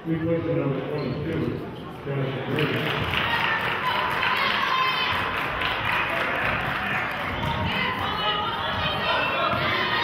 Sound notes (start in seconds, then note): 3.3 clapping